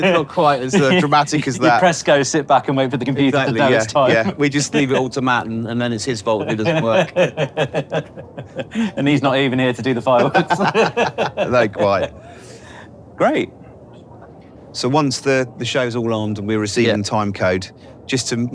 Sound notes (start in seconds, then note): 6.3 chuckling; 10.2 both chuckling